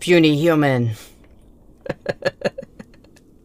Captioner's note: laugh